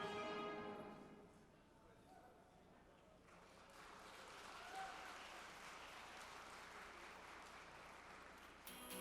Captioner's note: applause